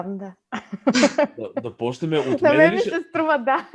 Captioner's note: laugh